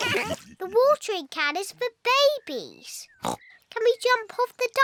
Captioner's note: all laugh; oinks